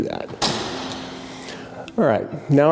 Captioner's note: lever clicks